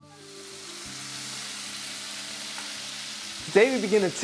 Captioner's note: sizzling sound